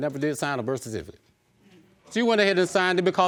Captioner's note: audience murmuring